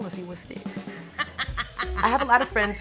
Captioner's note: laughing